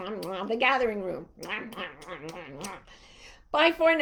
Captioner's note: blowing kisses